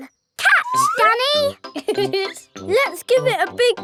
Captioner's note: laughs